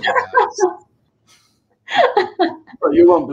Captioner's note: laughter